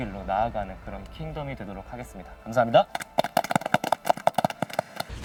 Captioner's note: applause